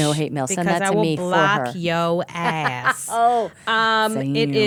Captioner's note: laughing